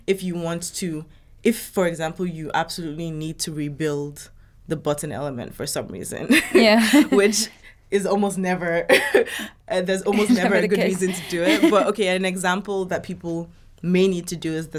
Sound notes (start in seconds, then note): 6.3 laughing; 10.1 laughing